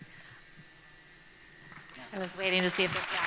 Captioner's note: applause